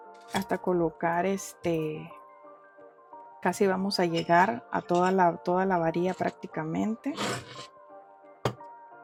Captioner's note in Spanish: resoplido